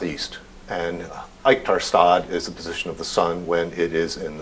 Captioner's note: non-english speech